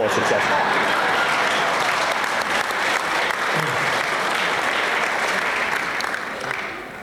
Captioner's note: applause